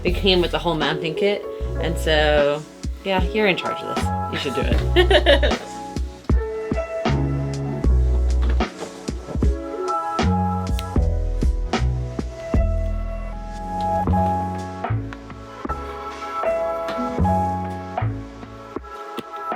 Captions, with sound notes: It came with a whole mapping kit. And so, yeah, you're in charge of this. You should do it. (laughing) (smooth jazz continues)